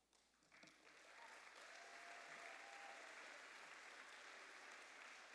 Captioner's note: applause